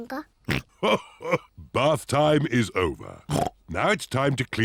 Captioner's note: laughs; snorts